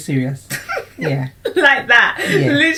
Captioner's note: laughs